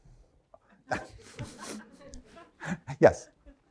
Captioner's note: laughs